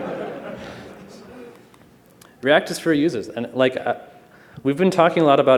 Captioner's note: laughter